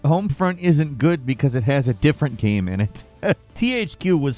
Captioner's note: laughs